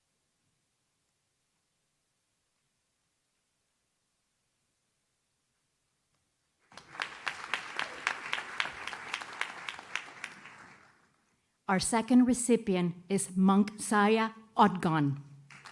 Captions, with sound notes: (audience claps) Our second recipient is Munkhzaya Otgon.